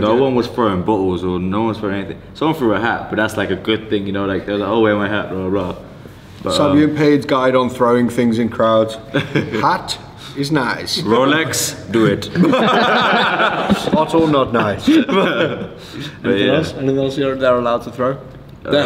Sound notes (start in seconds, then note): 12.3 all laugh